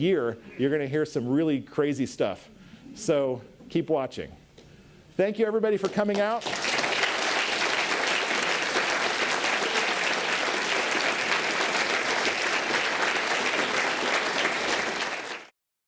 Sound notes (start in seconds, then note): 6.2 applause